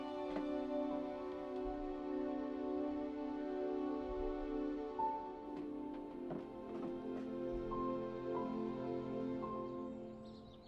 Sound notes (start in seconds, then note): none